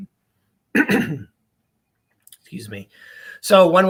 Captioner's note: clears throat